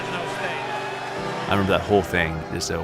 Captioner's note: crowd Cheering